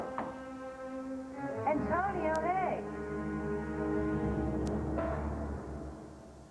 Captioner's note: knock